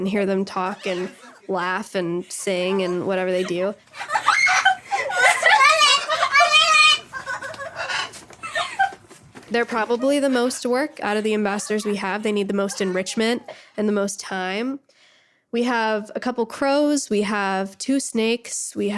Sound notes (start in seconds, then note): 3.9 parrots imitate laughing; 7.2 laughing